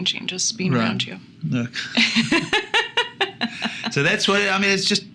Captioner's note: both laughing